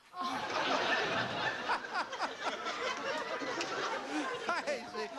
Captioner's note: laughing